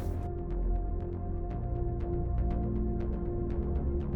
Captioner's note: scary voices